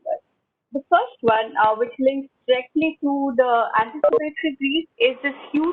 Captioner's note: audio blurs